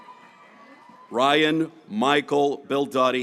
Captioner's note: graduates cheering